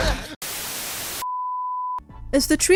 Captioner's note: static